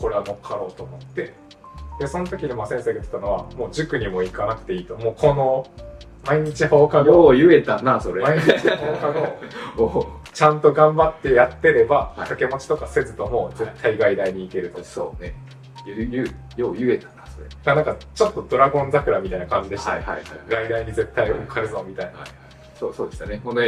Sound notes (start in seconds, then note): 8.3 laughs